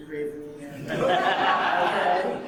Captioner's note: audience laughing